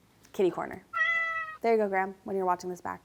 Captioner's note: cat meowing